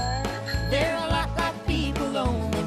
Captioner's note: bell Rings